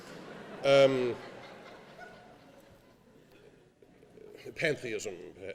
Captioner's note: laughing